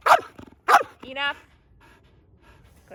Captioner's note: dog barking